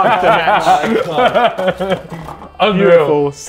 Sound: Ethan laughing

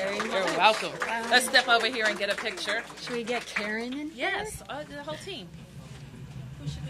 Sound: applause

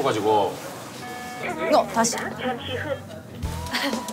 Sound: on the phone

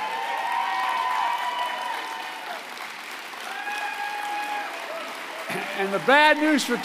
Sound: applause

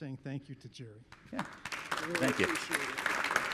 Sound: audience applauding

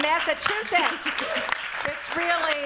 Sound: applause

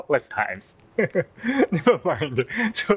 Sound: chuckle

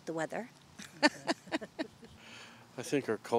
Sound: both chuckling

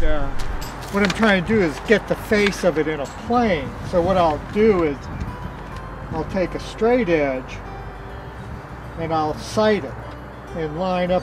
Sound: clinking sound continues

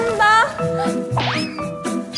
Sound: Swish

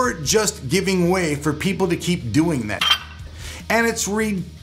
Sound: clinks

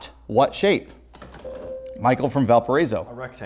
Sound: beeping

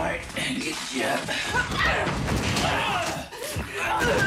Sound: both grunt and yell

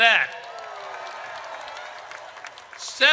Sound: audience cheers

